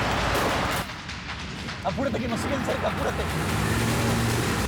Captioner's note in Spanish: Disparos